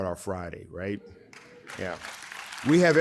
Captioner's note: audience applauding